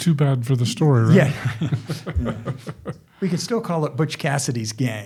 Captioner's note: chuckling